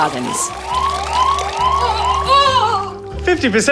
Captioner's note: alarm blares, woman groans